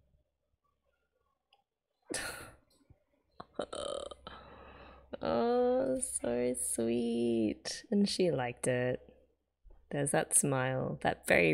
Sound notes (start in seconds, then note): 2.1 sighs